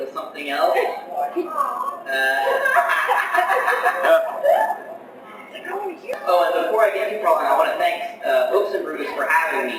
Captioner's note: laughter